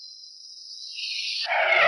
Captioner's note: tires screeching